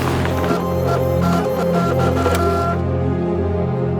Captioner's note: printer buzzing